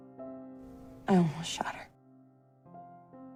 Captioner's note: voiceover